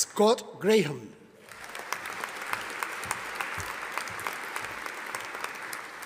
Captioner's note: audience applauding